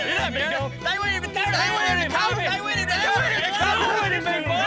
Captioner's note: all laughing, cheering